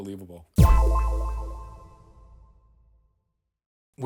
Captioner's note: sharp tone echoing